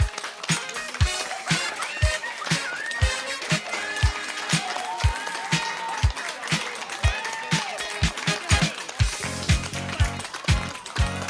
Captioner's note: cheering